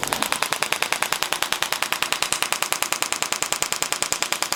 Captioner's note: machine tapping